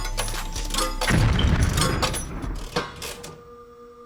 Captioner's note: exploding sound